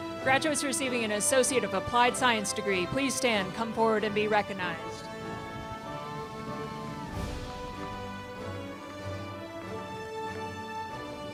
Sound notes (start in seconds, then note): 7.4 crowd cheers